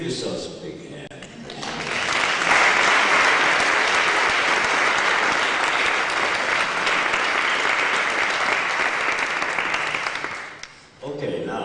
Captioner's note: applause